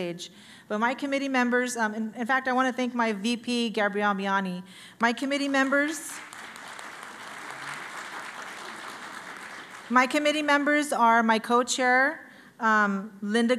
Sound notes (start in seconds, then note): 6.8 applause